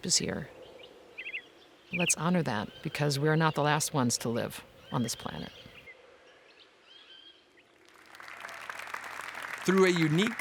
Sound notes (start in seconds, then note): 0.0 birds chirping; 7.8 applause